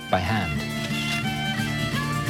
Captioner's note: camera flashing; lively music